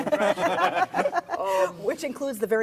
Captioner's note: laughs